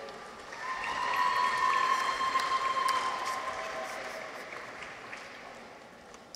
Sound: audience applauds; people cheer

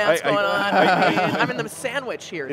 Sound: laughter

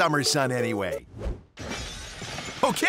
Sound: window breaking

